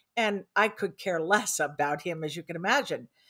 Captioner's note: none